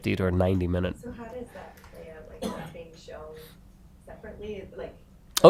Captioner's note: coughing